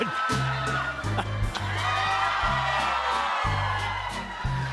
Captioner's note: cheers and applause